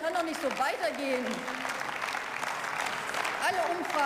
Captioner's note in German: Beifall